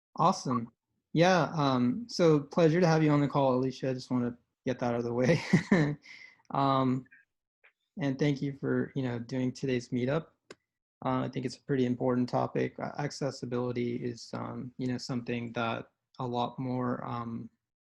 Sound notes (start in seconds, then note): 5.2 chuckles